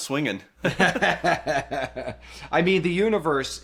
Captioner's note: laughs